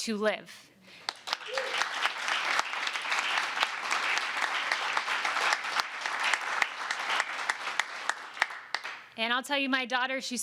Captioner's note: applause